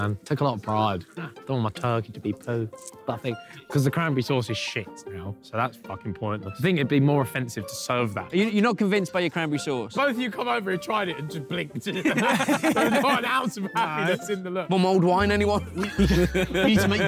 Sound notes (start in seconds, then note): 11.9 both laughing; 15.7 Vik laughing